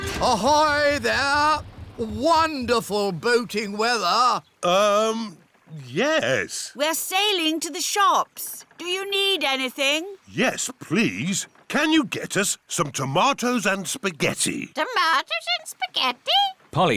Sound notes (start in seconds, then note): none